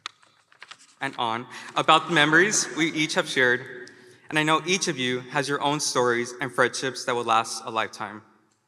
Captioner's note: laughter